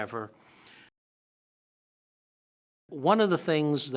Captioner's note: silence